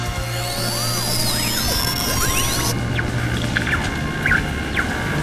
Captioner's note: high-pitched whirring